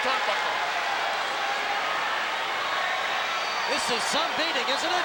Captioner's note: crowd yelling